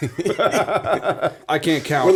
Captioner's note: laughter